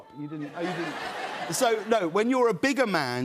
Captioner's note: laughter